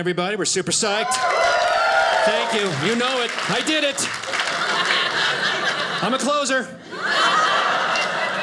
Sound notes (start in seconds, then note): 0.9 audience cheers; 6.7 audience laughing